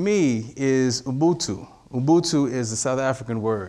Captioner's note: speaking in foreign language